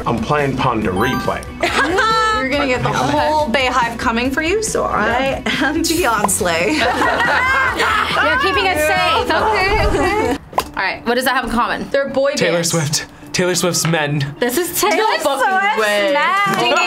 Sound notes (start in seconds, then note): 1.6 laughs loudly; 6.7 everyone laughs